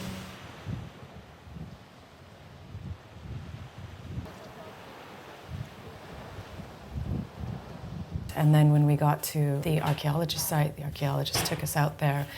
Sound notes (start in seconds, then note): 0.3 calm ocean waves; 4.4 people chatting and wind blowing